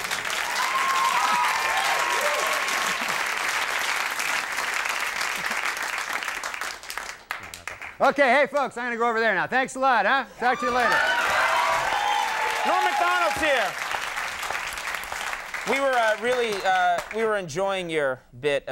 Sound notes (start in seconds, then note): 0.0 audience cheering; 10.5 audience applause; 11.2 audience cheering